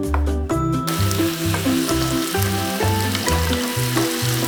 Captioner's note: sizzling